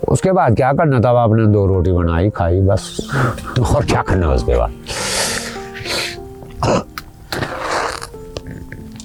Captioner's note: laughs